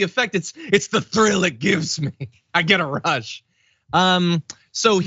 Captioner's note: laugh